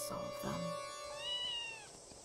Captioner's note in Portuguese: Meaw~~